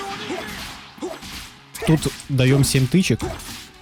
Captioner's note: strikes